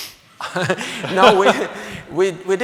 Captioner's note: laughing